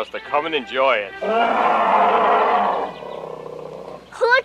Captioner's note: growl